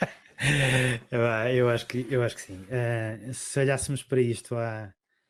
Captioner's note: laughs